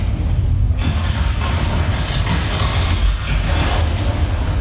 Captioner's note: building rumbles; building clatters